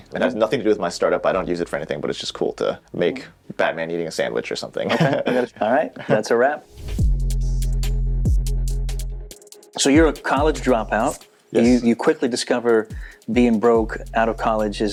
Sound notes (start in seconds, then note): 4.8 chuckling; 6.6 mellow music